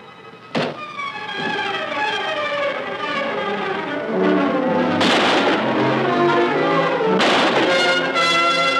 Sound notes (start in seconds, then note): 0.0 suspenseful orchestral music; 5.0 gun firing